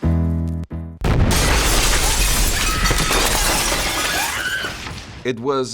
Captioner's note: explosion booms; Mollie screams